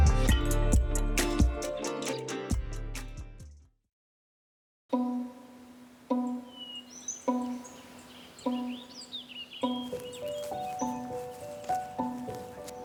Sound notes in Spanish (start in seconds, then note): 5.0 música suave; 5.0 pájaros trinando